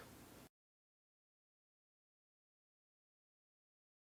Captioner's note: silence